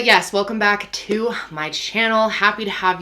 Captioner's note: hands clapping